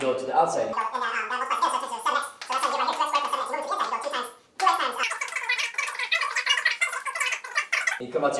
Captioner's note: sped-up talking